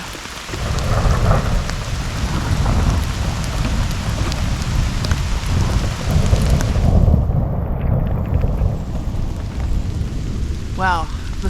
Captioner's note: thunder